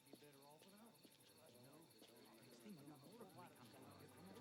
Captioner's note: men murmuring